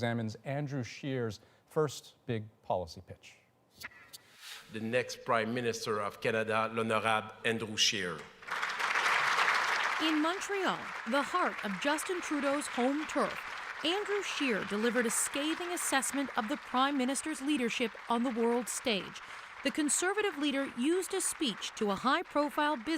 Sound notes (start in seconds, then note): 12.6 applause